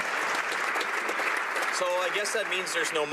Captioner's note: some Applause